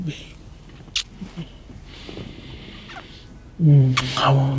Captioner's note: lips smacking